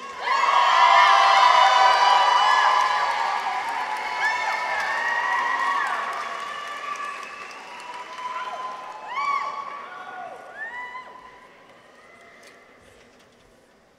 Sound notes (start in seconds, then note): 0.0 audience applauds; 0.1 people cheer; 8.9 audience members cheer